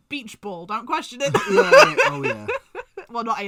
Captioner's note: laughs